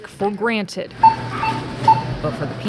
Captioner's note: electronic beeps